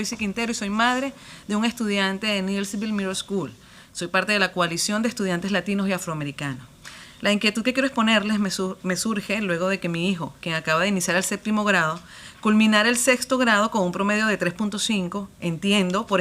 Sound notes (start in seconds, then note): 4.2 speaking spanish